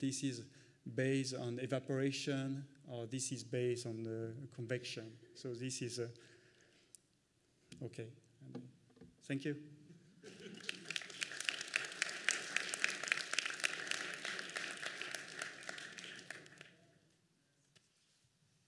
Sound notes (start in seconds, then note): 10.2 applause